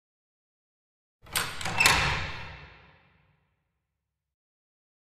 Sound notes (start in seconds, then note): 1.2 sound of church door